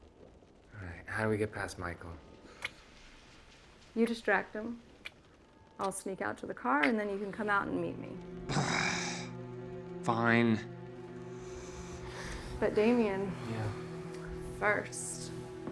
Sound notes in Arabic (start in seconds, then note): 0.0 صوت المطر; 8.5 تئن; 10.4 موسيقى أوركسترالية مشؤومة